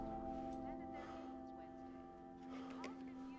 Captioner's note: panting